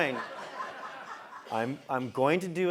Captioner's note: laugh